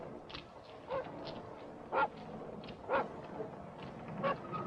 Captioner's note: dog barking